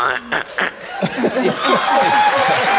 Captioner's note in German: Röcheln; Jubel, Applaus